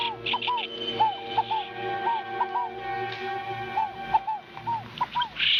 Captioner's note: chirping